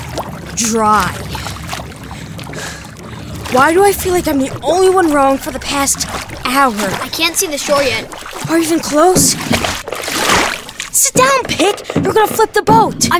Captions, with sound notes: dry. >> Why do I feel like I'm the only one rowing for the past hour? >> I can't' see the shore yet. >> Are we even close? [ Water sloshes ] >> Sit down, Pick! You're going to flip the boat!